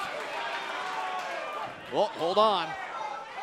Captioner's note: crowd cheering